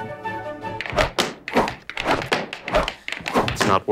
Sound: jaunty music; clattering

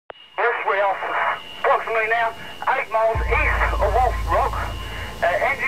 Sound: radio static

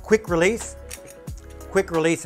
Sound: clasp clicks

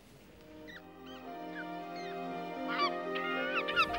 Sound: bird squawking

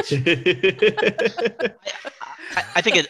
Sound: laughter

